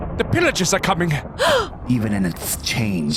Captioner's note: gasp